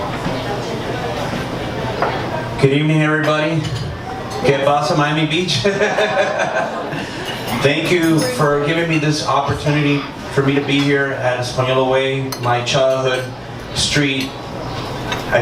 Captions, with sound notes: - Good evening, everybody. (speaks in Spanish), Miami Beach. Thank you for giving me this opportunity for me to be here at Espanola Way, my childhood street.